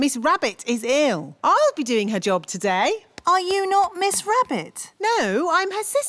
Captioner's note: none